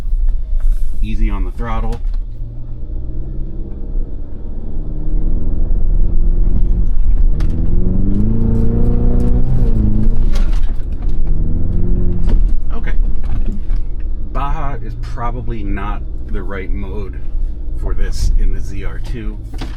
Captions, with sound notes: Easy on the throttle. (engine rumbling) Okay, Baja is probably not the right mode for this in the ZR2.